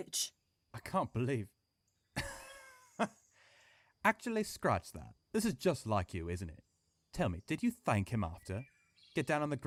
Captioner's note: he laughs coldly